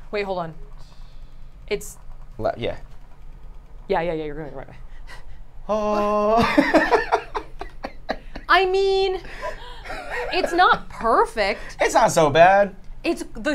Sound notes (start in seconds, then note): 5.8 laughs